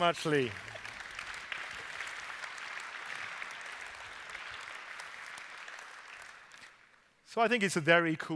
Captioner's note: applause